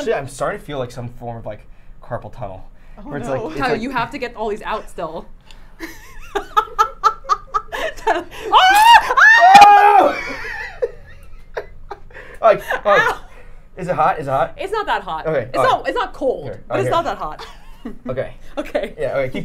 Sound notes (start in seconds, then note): 5.9 laughing; 8.4 both screaming